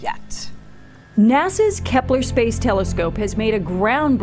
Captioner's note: voiceover